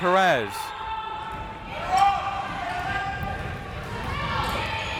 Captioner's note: crowd members shouting